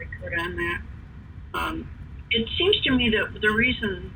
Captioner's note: away from microphone